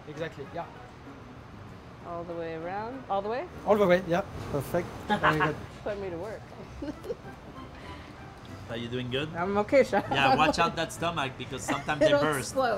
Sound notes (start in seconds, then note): 6.6 giggles; 6.6 laughs; 10.0 laughs